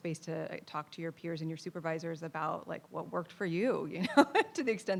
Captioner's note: laughs